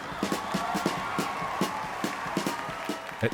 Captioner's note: crowd cheering